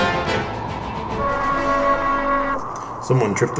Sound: alarm sounds

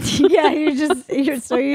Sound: laughing

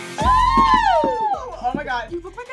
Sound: squealing

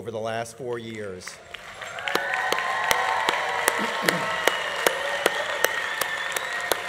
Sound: students applauding; students cheering

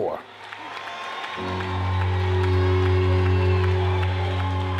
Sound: audience applauding

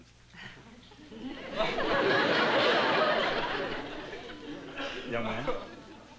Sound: laughter

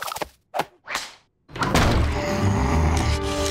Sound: growling

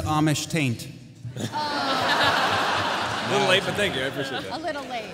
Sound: laughter

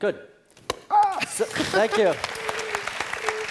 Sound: laugh; applause

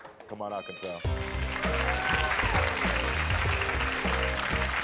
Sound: audience clapping

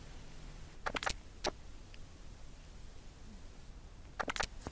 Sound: camera clicking

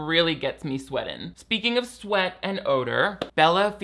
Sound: claps hands once

